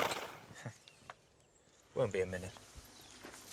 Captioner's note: horse snorts